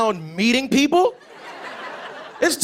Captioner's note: laughter